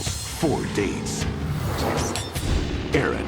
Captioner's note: graphics whoosh